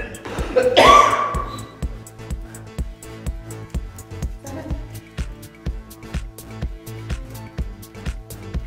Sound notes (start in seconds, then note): 0.0 cough